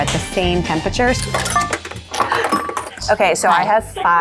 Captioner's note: coins clinking